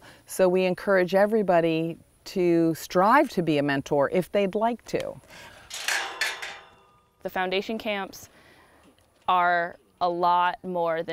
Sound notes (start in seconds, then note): 5.4 gate opening